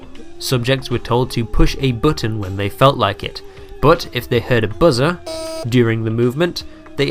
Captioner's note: buzz